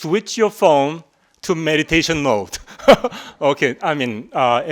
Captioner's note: chuckling